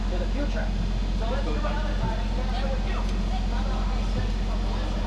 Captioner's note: voice fading